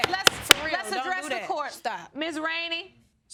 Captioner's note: bangs gavel